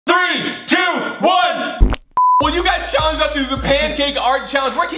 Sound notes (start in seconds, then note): 2.1 beep; 2.1 squirting